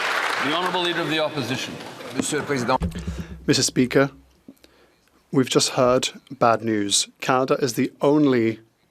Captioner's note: applause